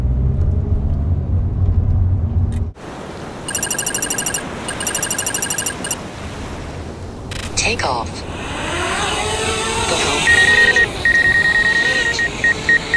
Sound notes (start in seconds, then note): 8.2 drone buzz; 10.1 drone beeps